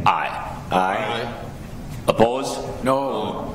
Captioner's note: multiple Voices